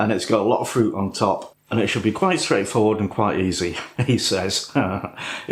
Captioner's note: laffin